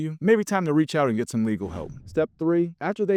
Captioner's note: screen whooshing